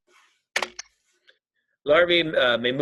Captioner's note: keyboard clicking